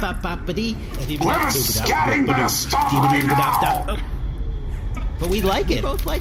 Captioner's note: the Nermuts skitter in together, scatting happily